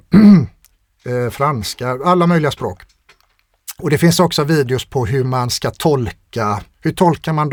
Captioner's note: clears throat